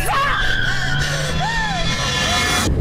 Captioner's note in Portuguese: respiração ofegante